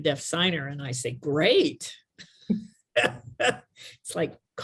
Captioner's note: giggles